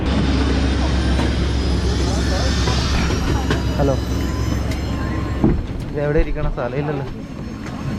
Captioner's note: aircraft sound